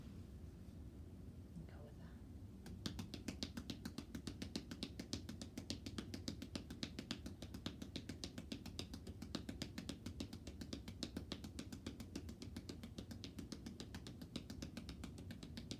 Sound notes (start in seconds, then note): 2.8 hands tapping